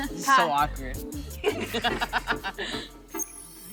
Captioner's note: laughing